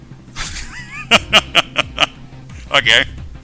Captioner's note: laughing